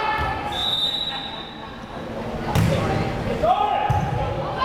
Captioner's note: whistle blares